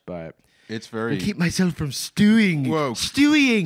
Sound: as Stewie Griffin

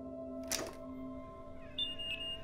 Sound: door creaks; alarm beeps

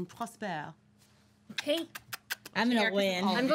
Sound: kissing sounds

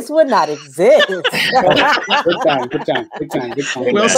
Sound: laughs

